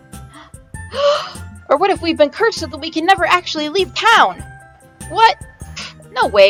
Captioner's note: gasp